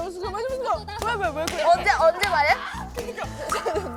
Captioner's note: crying